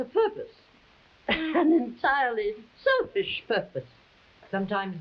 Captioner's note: chuckling